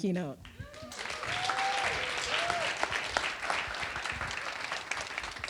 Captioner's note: audience applauding